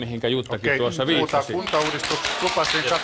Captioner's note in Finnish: Aplodeja